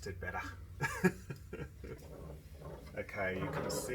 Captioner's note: laughing